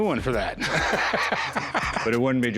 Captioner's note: laughter